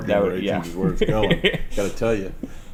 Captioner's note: laughter